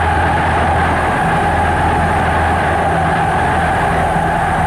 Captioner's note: crowd cheering